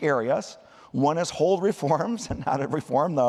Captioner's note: laughter